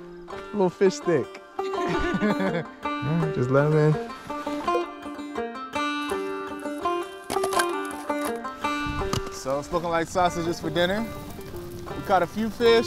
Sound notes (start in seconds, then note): 1.7 laughs; 4.3 water plops; 7.2 wood thuds